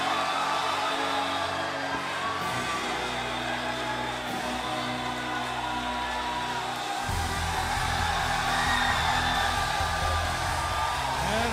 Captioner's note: crowd cheering